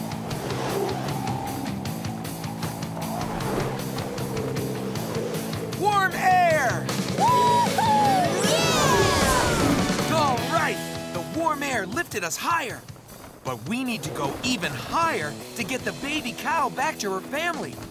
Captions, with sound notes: Warm air! [cheering] Alright! The warm air lifted us higher. But we need to go even higher to get the baby cow back to her family.